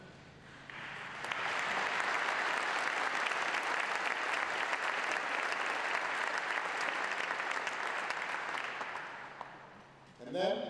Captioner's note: applause